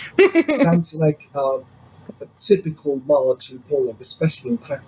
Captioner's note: laughs